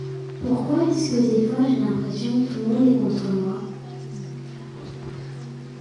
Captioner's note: french